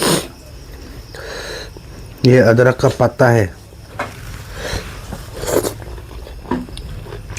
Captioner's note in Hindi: नाक से की जाने वाली आवाज़